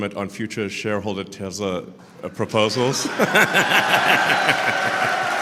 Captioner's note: Laughter; 笑声